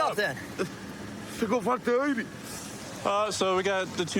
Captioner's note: speaking spanish